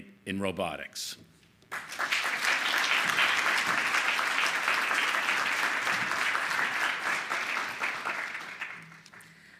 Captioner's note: applause